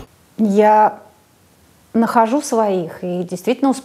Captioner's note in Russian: none